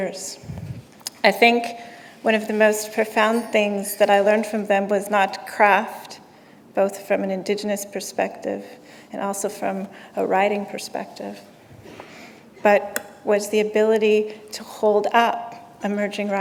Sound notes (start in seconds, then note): none